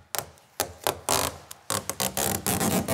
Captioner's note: tearing noises